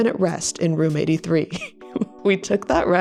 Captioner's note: laughs